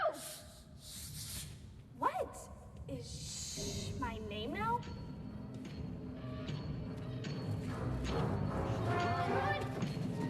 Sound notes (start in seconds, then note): 4.1 footsteps tapping and chain rattling